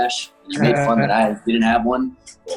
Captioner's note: Jaren laughing